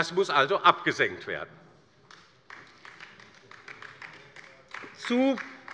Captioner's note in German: Beifall bei der LINKEN